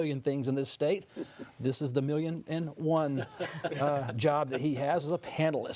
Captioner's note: panelists laughing